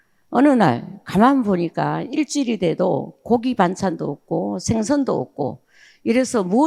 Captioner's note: speaking in foreign language